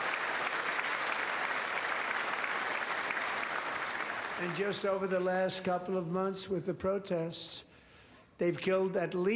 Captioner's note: applause